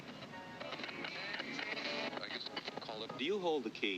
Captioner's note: radio stations flip; radio voice